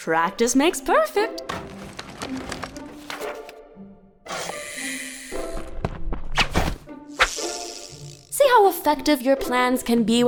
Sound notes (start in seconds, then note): 4.1 zipping sound from the fishing line